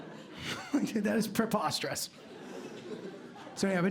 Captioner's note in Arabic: يضحك